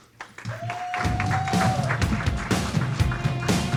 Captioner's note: audience clapping